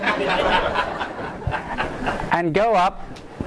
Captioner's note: laughter